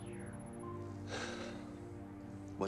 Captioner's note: sigh